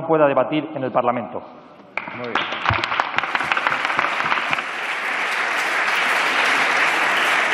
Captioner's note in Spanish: Aplausos